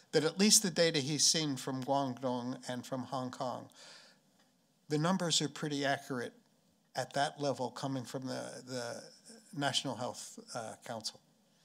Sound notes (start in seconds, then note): none